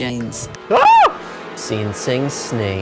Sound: screams

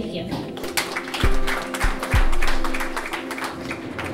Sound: audience applauds

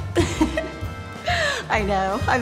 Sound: laughing

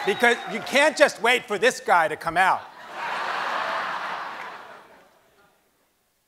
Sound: laughing

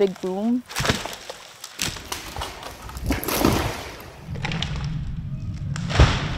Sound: tree falling noises

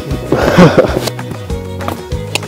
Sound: laughing

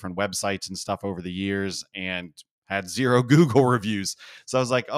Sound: laugh

